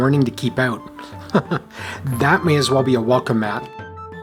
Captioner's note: chuckles